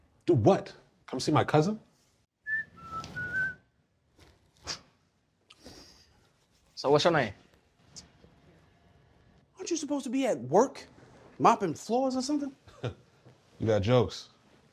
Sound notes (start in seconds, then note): 2.4 Raheem whistling; 5.1 laughs; 12.7 laughs